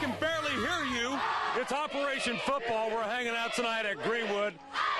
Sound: cheering

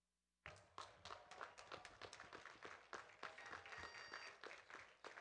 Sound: audience clapping

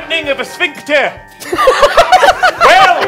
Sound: laughs

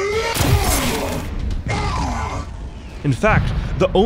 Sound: soldiers groan

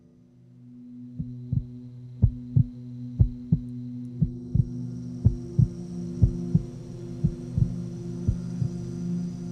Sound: second heartbeat

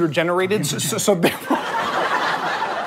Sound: quietly; audience laughter

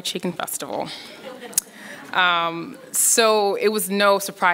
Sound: laughing

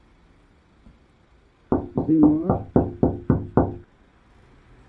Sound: knocking on the window again

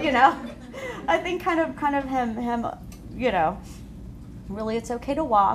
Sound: laughter

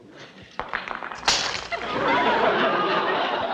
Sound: smashing

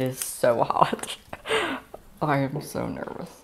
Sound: more nervous laughter

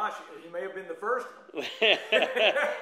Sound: laughs

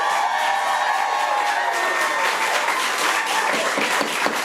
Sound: audience applauding

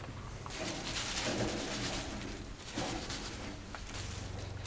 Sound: leaves rustling

